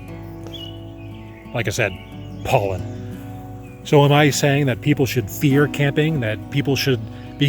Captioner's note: scoffs